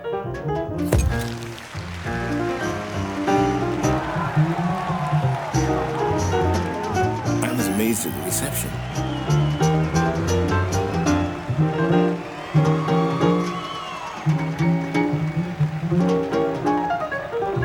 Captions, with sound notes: (applause) (cheering) I was amazed at the reception.